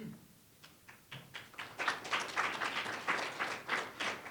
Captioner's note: audience applauds